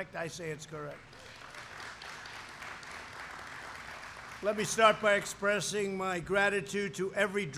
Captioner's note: applause